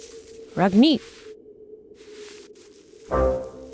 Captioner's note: angry goodbye gibberish